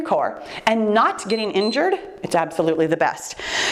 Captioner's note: timer beeps